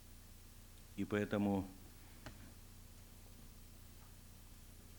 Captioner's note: non-english speech